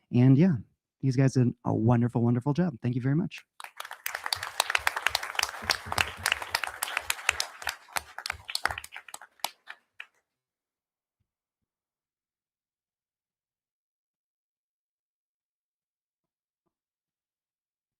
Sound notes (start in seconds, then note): 3.5 audience applauding